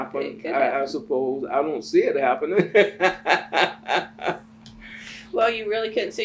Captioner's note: laughs